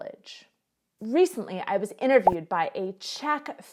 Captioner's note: bubble pops